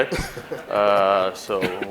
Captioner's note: laughing